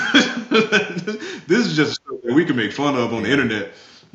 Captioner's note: laughing